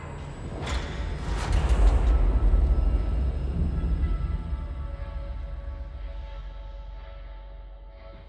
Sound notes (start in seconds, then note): 0.1 ominous creaking